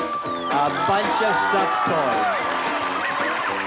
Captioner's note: cheering and applause; playful music